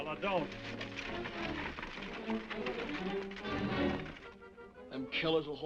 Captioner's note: horse hooves clopping